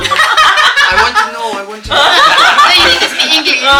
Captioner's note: laugh